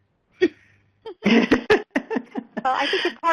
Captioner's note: everyone chuckles